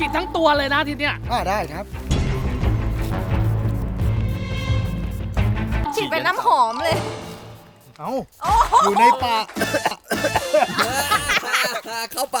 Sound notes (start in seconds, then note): 8.5 choking; 10.9 laughs